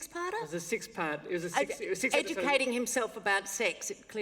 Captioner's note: laughter